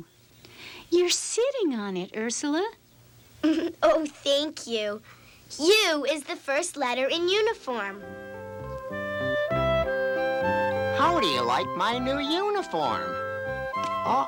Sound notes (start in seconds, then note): 3.4 giggles